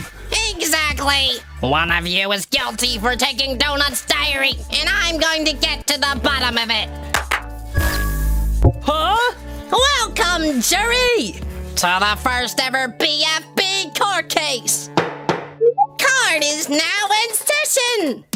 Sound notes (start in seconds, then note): 7.1 clap, clap; 15.0 gavel slam